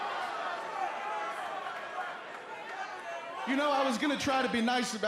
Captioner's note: crowd chatter